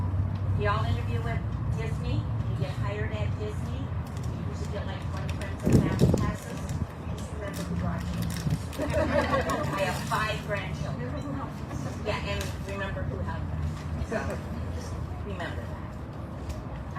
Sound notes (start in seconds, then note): 8.7 audience chuckles